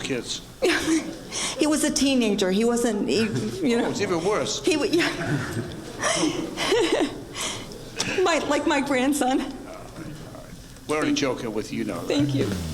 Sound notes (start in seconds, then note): 4.9 laughing